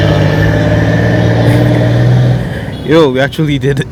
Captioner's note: laughs